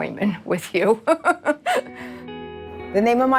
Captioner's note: laughs